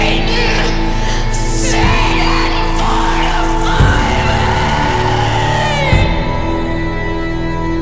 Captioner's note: begins screaming